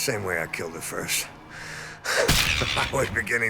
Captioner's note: sighs heavily